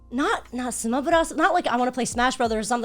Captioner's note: speaking Japanese